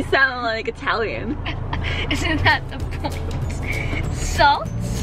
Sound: laughs

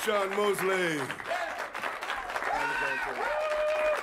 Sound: applause

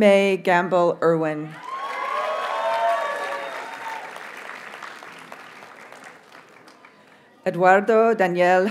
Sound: audience cheers and applauds

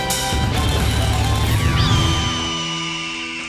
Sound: screaming eagle

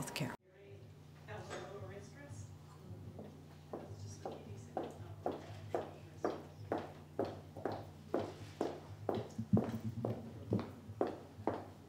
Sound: door clicks, footsteps

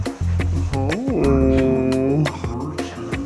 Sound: distorted voice

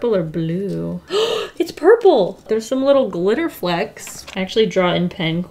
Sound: gasps

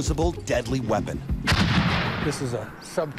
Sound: gun banging

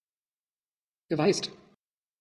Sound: fast Pronunciation

